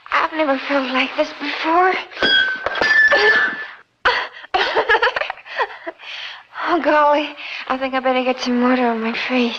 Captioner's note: laughs